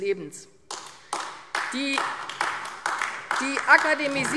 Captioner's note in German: Beifall AfD